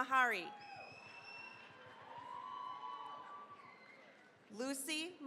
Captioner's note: cheering, applause